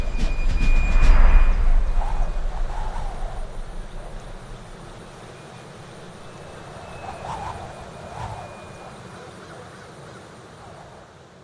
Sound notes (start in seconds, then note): 0.0 wind whistling; 0.0 birds chirping